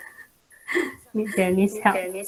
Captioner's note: laugh